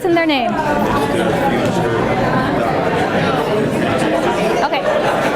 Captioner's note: class chattering